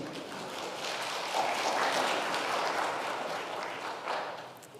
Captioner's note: congregation applauding